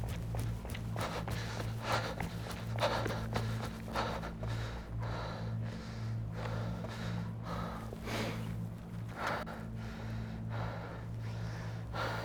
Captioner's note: heavy breathing